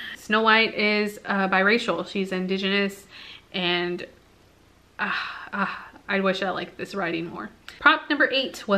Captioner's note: sigh